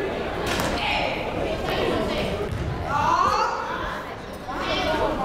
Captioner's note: people talking in the crowd